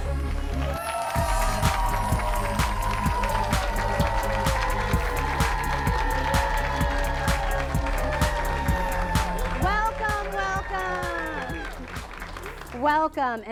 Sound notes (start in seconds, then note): 1.0 applause